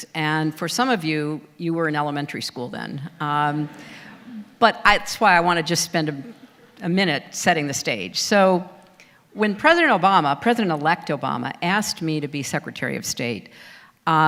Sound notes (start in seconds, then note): 3.9 audience laughter